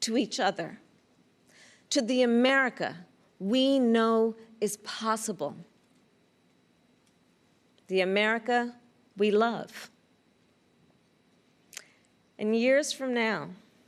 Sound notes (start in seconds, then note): none